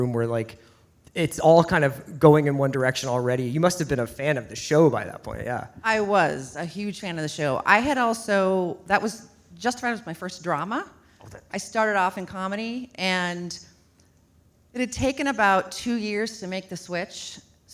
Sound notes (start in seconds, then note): none